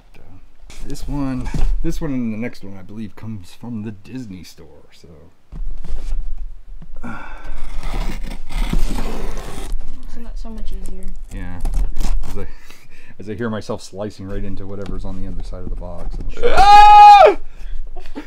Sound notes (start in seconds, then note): 7.0 sighing, tape ripping; 17.3 screeches